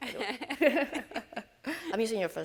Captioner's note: both laugh